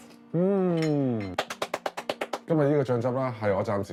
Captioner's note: applause